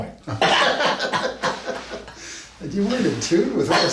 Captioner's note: both men laugh